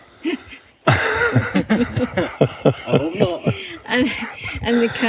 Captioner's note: laughter